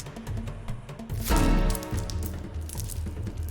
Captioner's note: knife stabbing, twisting in flesh; necklace rips off; beads rattle